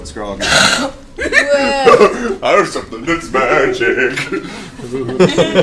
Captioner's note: singsong